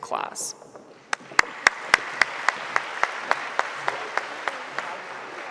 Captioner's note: audience applauding